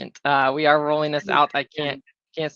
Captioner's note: chuckling